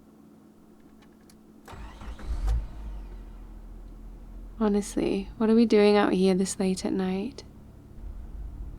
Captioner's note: car door opens and closes; car starts and drives